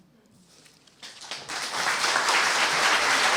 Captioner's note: applause